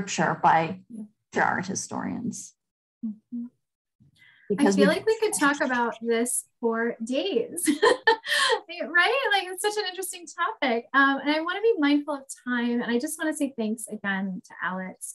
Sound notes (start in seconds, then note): 7.7 laughs